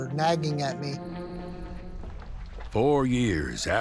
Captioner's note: footsteps